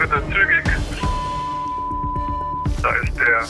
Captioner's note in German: Piepsen